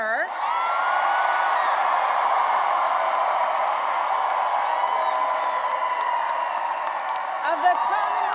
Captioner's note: cheering and applause